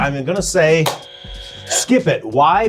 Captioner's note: buzzer buzzing; hand thumps